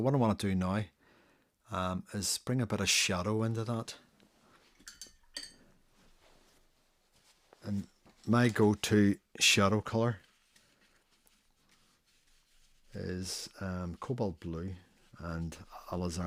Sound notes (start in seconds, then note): 4.8 silence